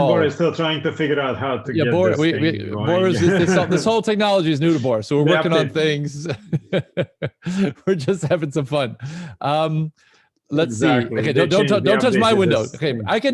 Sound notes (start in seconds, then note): 5.3 laughs